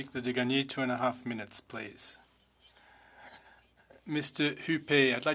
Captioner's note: speaking French